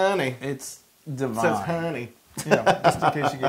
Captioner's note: laugh